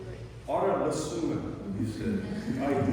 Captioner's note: non-english speech